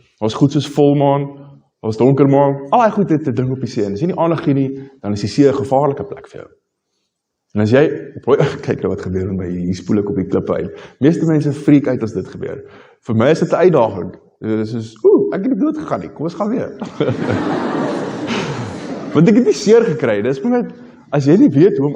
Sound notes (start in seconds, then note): 16.8 laughter